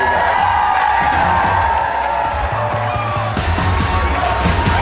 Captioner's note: audience cheering; heavy rock music